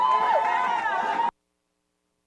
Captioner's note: applause